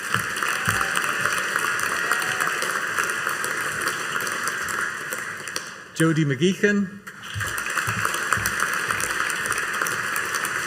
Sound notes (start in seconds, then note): 0.0 audience applauding; 7.1 audience applauding